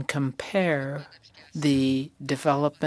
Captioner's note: speaking French